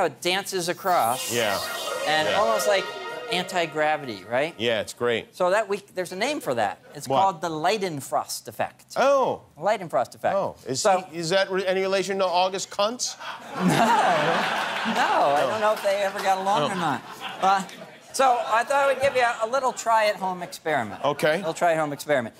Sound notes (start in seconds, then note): 16.6 laughter